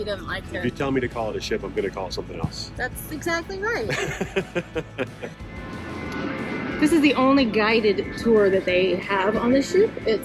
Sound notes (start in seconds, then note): 3.8 chuckling